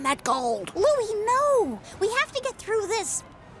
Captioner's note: whispering